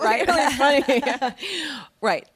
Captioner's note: laughing